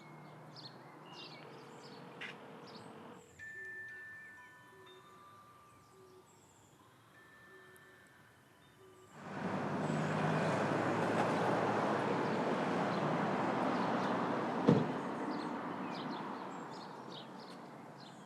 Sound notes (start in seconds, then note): 3.2 ringtone tinkling